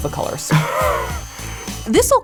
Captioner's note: laughs